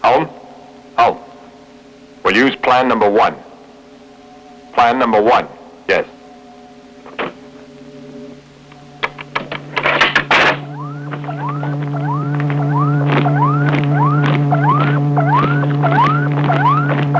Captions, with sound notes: Holm, Holm, we'll use plan number one. Plan number one yes. (electronic beeping)